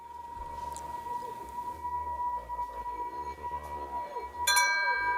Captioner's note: high pitched tones ringing; tones clanging